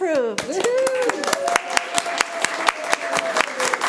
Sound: room applauds

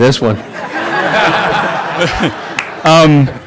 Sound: laughter

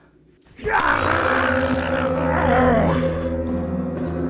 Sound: growling

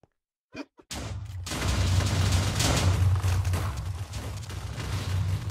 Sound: explosion rumbles

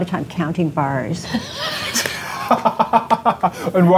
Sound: laughing

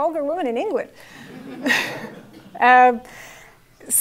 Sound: laugh

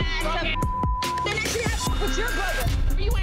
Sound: beep

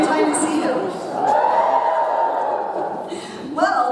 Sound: audience cheers

